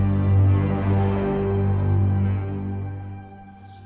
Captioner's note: birds chirping